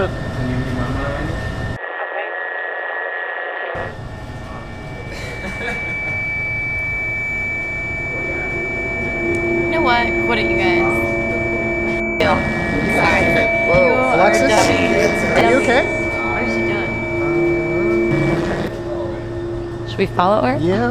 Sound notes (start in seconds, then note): 2.0 static buzzing; 5.1 Ryan laughs; 6.5 shrill buzzing; 12.3 distorted speaking